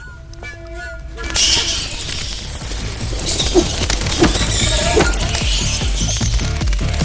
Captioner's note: bats screeching